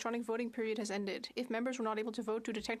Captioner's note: speaking French